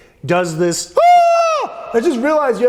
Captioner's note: shouting